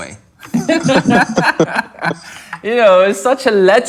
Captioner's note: laughter